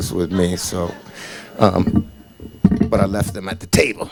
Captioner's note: audience laughing